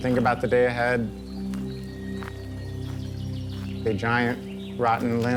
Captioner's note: Passos na grama, pássaros cantando